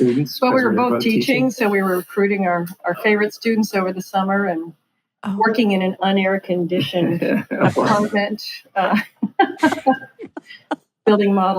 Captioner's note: laughing